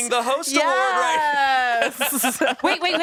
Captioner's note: everyone laughs